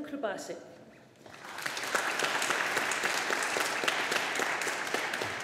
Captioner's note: audience applauding